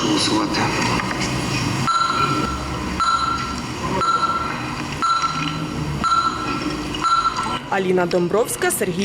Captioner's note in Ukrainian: звук системи для голосування